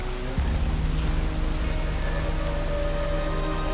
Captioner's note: rain and wind